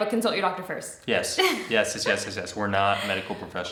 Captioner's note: laughs